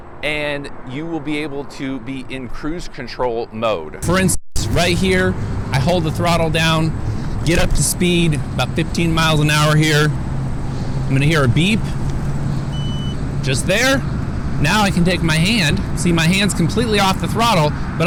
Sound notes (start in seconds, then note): 12.6 beeping